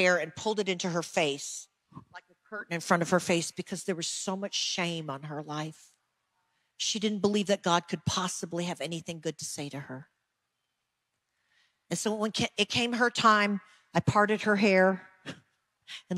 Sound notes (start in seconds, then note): none